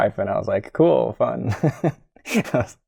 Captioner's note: laughter